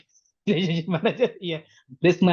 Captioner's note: laughs